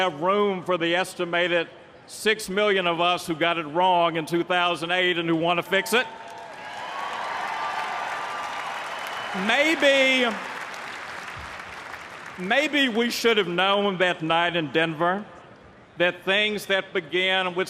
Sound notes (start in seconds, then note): 6.2 applause